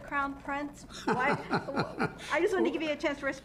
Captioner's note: laughs